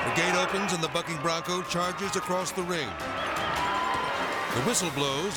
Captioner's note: people clamoring